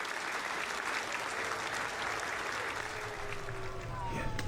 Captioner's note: applause